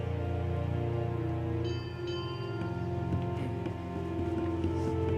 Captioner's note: bell ringing